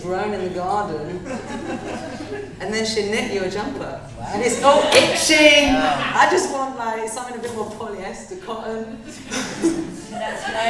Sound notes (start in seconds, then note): 1.1 audience laughter; 8.9 laughter